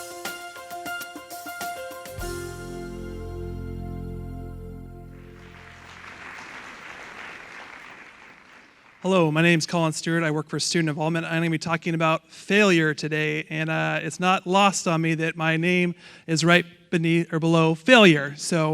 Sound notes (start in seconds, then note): 0.0 upbeat music; 5.1 audience applauding